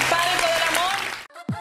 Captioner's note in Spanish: aplausos